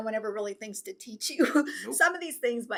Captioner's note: laughs